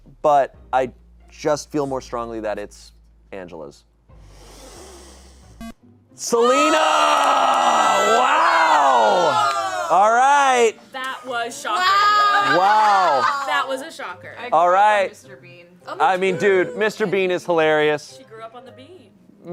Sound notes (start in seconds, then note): 5.6 electronic beep; 6.3 audience exclaiming